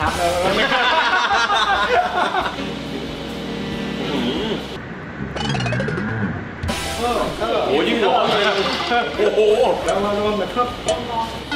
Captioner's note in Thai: เสียงหัวเราะ